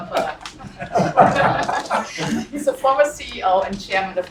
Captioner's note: laugh